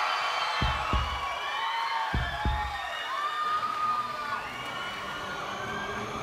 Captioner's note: cheers and applause; heart beat